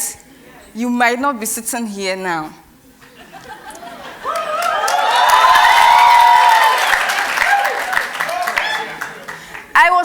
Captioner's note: cheers and Applause